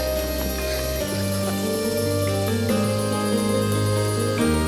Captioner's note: Anthony chuckles